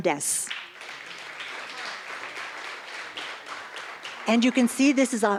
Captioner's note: applause